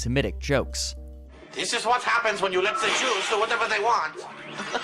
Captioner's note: in a bad German accent; malicious cackling